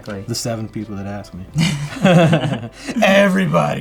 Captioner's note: laughs